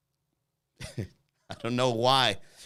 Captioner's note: chuckles